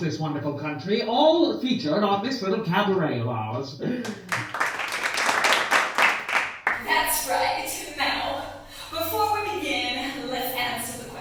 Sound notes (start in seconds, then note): 4.0 clapping